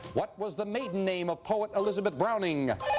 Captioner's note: beeping